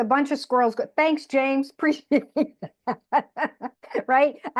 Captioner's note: laughs